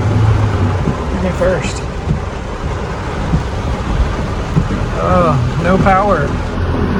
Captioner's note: changing gears